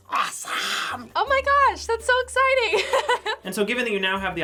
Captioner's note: laughs